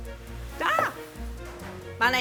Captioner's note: yelps